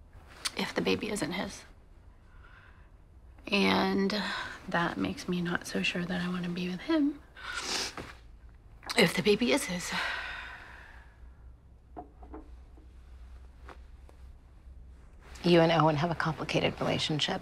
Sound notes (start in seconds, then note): 7.4 sniffles